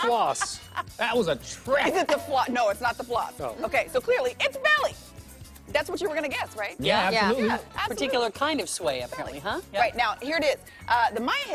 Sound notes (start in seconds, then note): 3.1 laughter